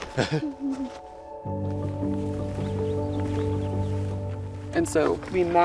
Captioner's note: laughs